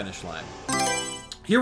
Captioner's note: Mario Selection Sound